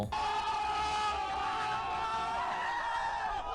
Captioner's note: people yelling